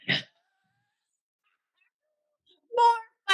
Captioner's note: Jan laughs